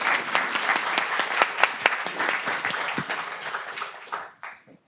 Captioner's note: audience applauding